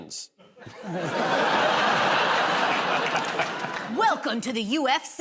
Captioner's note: laughter